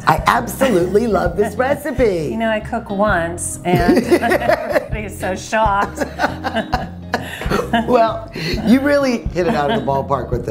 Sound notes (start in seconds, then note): 5.6 both laugh